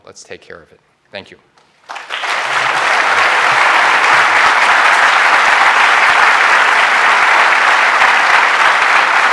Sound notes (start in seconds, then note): 1.8 applause